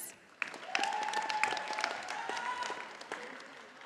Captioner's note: audience applauding